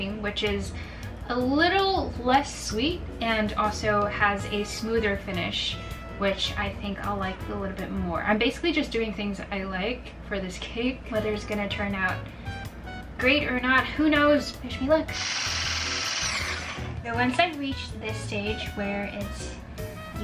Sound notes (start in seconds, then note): 15.1 whirring